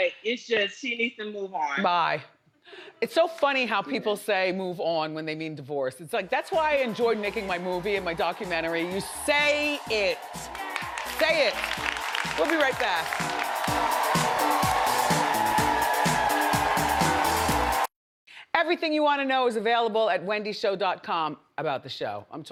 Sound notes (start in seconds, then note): 13.6 upbeat music; 14.8 audience cheers